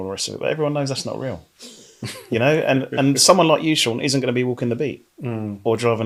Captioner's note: laughing